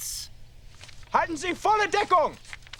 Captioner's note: speaking german